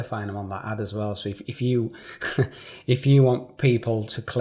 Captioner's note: chuckling